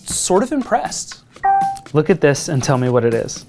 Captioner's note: pin beeping